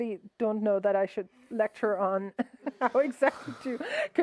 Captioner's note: laughs